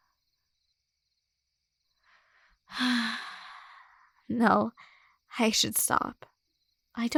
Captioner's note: sigh